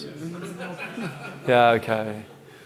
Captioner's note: audience laughing